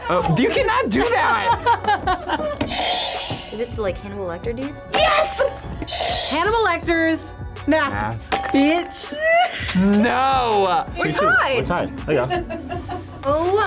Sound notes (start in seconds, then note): 0.8 laughs; 2.8 buzzer rings; 5.9 buzzer rings; 9.1 laughs